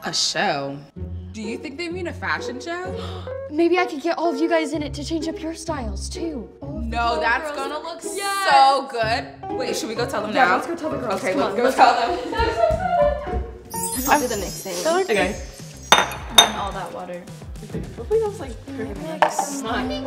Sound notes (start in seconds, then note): 3.3 gasps; 13.7 bells chiming